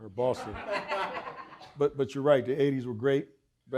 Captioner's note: audience laughing